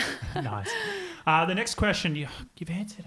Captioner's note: giggling